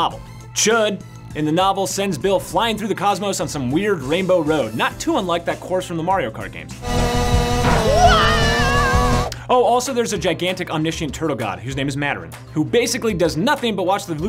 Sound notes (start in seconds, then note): 6.8 whirring; 8.0 yelling